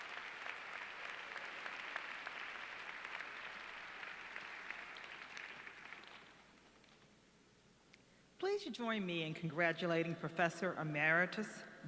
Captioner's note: applause